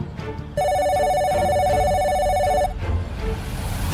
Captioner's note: phone ringing